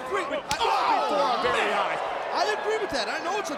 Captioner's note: Chavo screaming